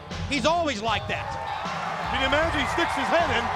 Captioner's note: crowd cheering